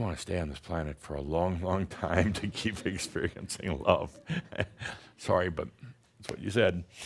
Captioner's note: chuckles